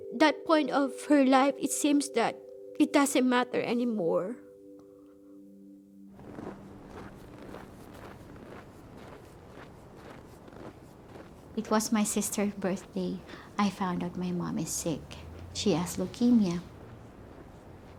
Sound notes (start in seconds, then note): 6.2 boots crunch in snow